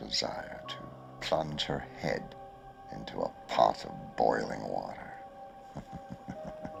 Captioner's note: chuckling